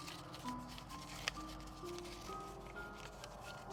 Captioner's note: gentle music continues; paper ruffling